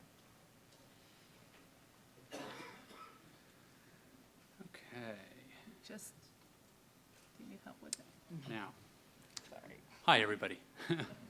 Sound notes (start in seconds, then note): 6.2 woman muttering